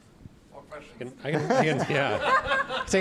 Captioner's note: laughing